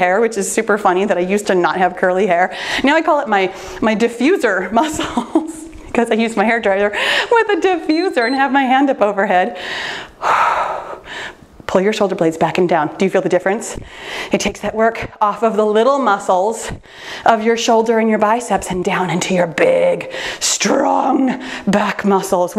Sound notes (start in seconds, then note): 7.8 timer beeps; 9.6 exhales